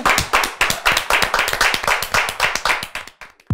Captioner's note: clapping